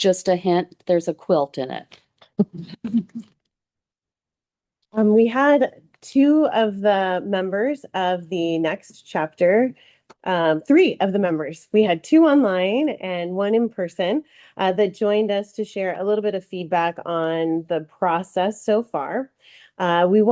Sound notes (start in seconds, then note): 2.3 board members chuckling